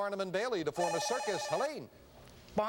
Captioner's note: buzzer